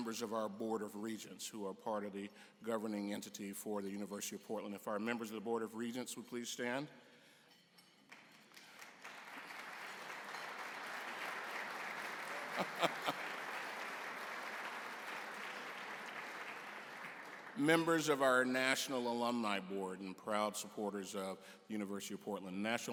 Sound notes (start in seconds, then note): 7.6 applause; 7.6 laughter